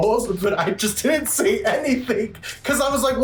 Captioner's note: laughs